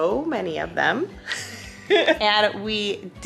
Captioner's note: laughs